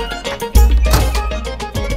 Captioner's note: Oven door closes